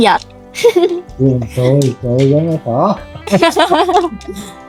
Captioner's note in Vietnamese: tiếng cười